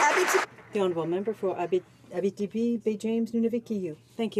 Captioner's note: some Applause